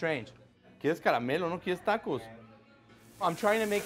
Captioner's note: speaking Spanish